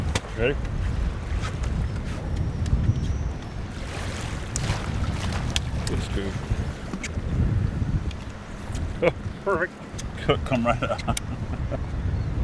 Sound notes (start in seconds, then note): 3.7 fish splashing